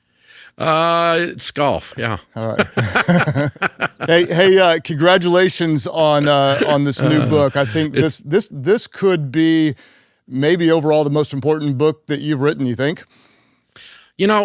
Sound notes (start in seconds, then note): 2.4 both laughs